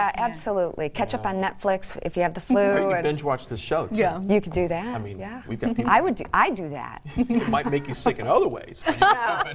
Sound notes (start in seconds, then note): 7.2 laughing